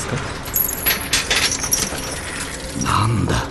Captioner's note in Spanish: sonido de cadenas